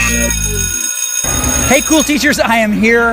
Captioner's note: school bell rings